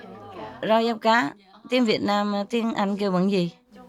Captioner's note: Vietnamese